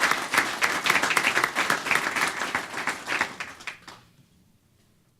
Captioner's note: applause